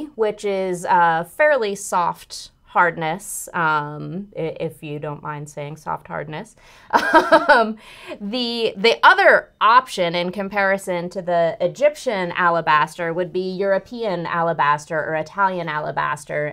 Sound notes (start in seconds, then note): 7.0 laughs